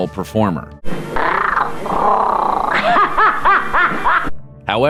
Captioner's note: meow, laughter